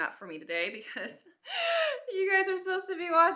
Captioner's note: laughs